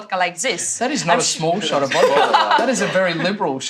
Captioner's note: laughs